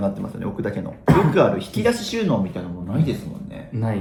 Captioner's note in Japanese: 咳払い